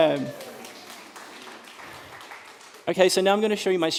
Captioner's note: applause